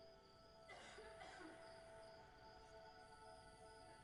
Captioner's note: woman coughing